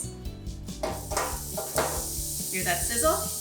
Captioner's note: pan sizzling